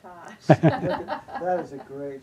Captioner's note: audience laughing